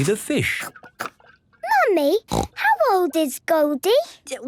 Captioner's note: snorting